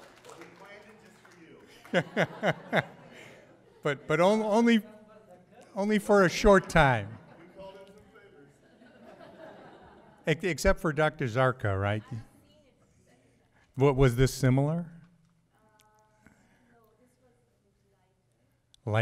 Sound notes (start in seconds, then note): 0.0 audience titters and claps; 1.6 chuckles